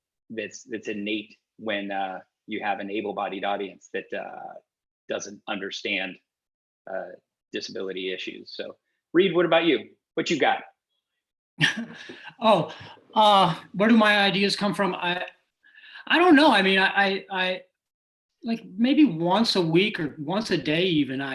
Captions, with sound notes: that's innate when you have an able-bodied audience that doesn't understand disability issues. Reed, what about you? Whatchu got? (laughs) Oh, where do my ideas come from? I don't know, I mean, I, like, maybe once a week or once a day even,